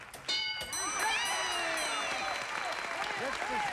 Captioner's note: applause